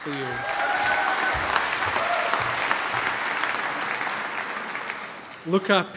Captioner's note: cheering, applause